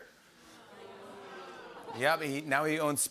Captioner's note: audience groans